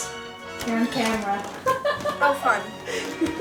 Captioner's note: laughing